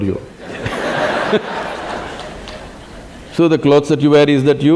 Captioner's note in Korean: 웃음